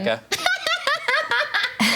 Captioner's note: laughs